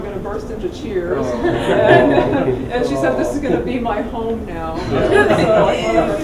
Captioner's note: laugh